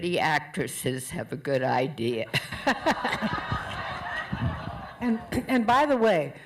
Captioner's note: laughter